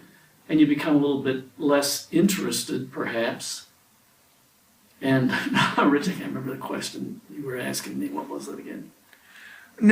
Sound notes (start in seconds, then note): 5.2 laughs